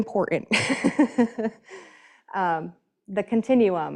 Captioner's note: laughing